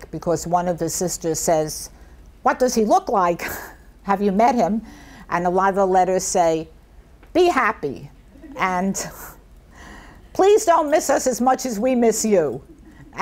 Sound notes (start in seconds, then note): 3.6 chuckles softly; 8.3 people in audience chuckle; 8.3 laughs